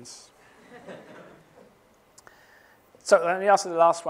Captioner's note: chuckling